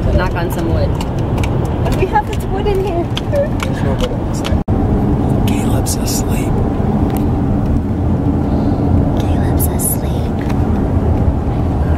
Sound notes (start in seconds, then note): none